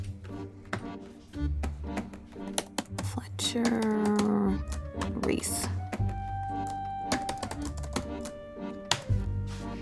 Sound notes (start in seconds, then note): 2.7 typing